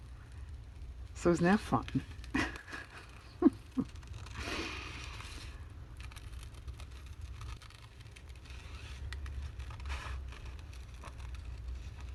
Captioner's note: laughs